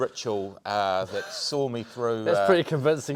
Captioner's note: host chuckling